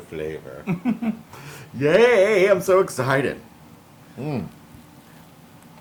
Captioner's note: laugh